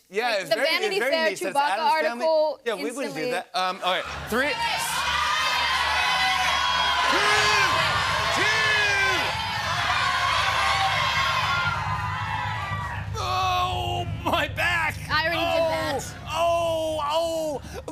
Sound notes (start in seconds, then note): 3.9 audience shouts numbers; 5.7 drumroll; 16.8 groaning